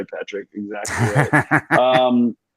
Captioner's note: laughs